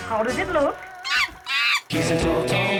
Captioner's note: monkey laughing